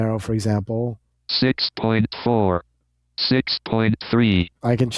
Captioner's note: automated Voice